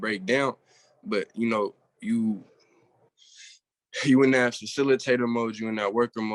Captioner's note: exhales heavily